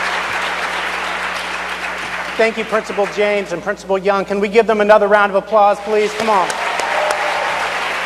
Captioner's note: cheers and applause